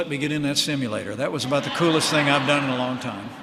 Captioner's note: laughter